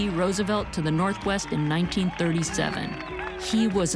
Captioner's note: distant cheering and applause